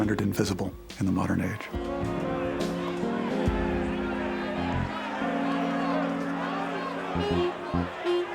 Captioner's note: traders shouting chaotically